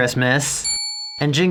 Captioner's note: ding